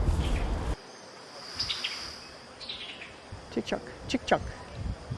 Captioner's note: birds chirping